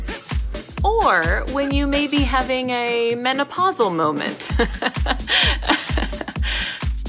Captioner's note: awkward laugh